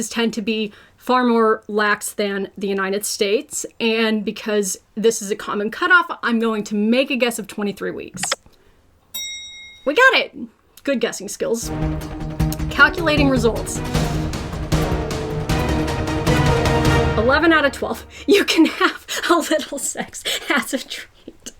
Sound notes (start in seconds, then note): 9.1 bell dings; 11.8 intense music; 20.8 laughs